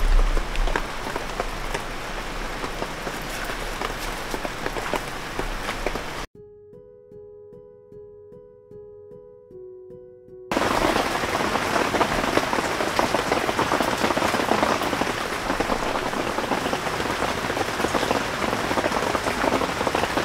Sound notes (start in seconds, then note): 7.3 heavy rain